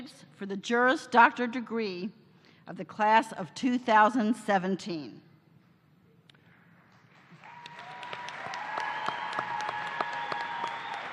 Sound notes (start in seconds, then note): 5.3 cheers and applause